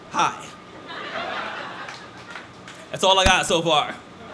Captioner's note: laughter